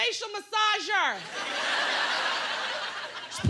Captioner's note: laughter